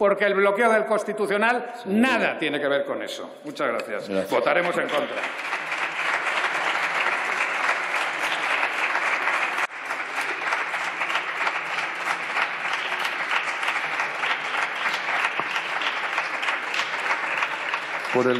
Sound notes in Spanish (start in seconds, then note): 10.6 Aplausos